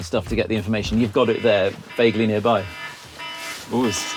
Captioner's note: siren ringtone